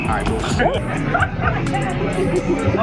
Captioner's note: laughing